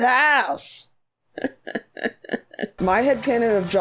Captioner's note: stilted laughs